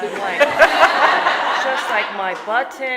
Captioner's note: audience laughing